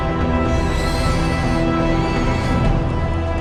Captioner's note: Rachni screech